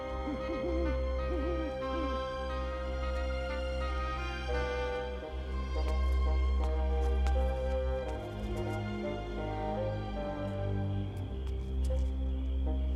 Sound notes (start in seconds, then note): 1.7 crickets chirping; 3.3 owl hooting